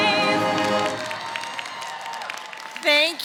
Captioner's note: applause